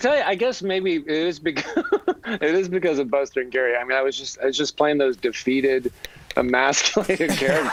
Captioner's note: laughter